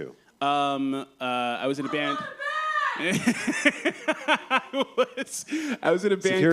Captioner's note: laughs